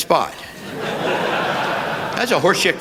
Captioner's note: laughter